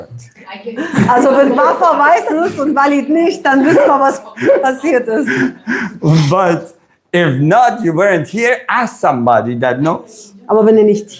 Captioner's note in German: gelächter